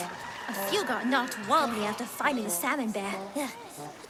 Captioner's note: distant kobold splashing and screaming